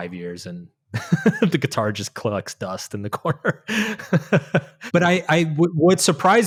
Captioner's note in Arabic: يضحك